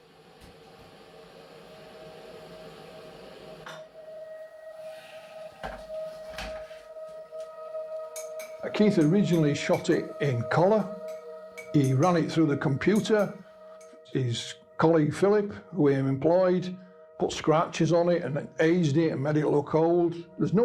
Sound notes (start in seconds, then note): 0.1 water rushing; 9.6 ceramic tapping